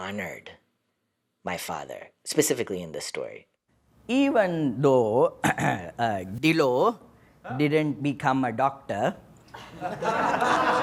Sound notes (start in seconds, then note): 3.4 soundbite of archived recording